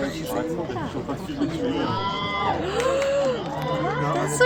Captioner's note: cheering